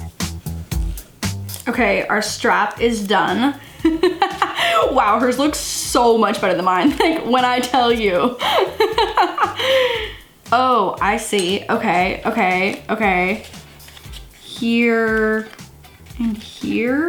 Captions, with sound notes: Okay our strap is done. (laughs) Wow hers looks so much better than mine. Like when I tell you. (laughs) Oh I see. Okay, okay, okay. Here and here.